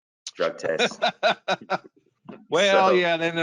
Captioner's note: laughs